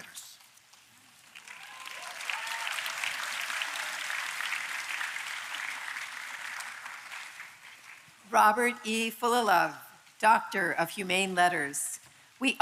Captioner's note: applause